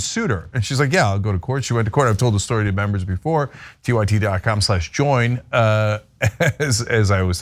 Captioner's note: laugh